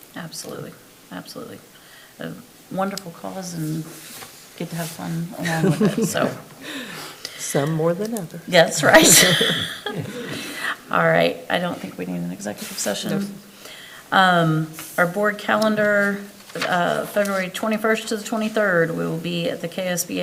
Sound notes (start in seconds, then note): 5.4 everybody laughing; 11.6 laughs